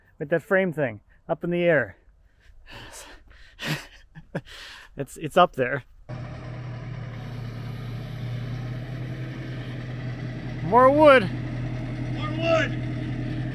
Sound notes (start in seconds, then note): 3.5 chuckles; 6.0 engine humming